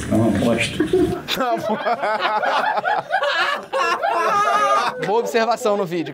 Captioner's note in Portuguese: risadas